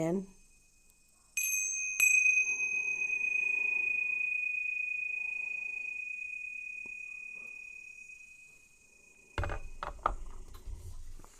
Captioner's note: prayer bell rings